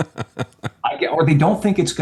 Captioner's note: laughs